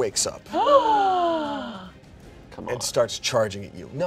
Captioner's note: gasps